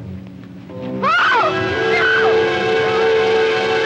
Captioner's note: screams